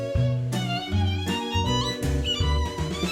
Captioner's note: sliding sound